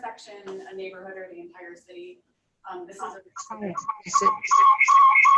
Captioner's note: feedback interrupts